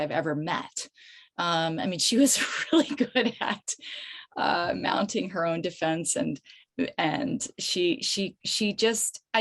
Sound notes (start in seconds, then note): 4.1 chuckles